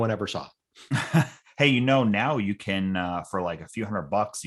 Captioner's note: chuckling